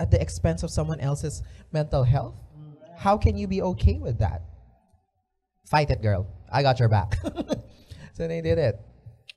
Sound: chuckles

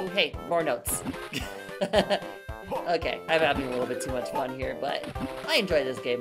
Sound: laughing

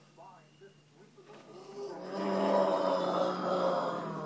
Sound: groaning and coughing

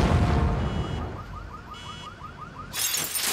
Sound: explosion; car alarms ringing; glass shattering

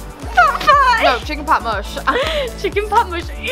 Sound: laughs

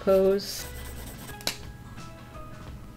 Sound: lid clicks off

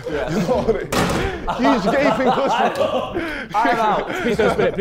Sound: Sidemen laughing

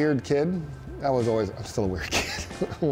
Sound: chuckling

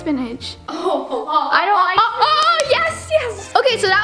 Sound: laughter and clapping

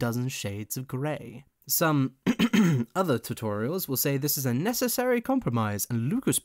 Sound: coughs

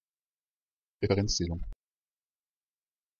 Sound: fast Pronunciation

